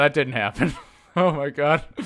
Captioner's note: chuckle